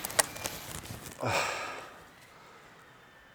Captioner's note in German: Ächzen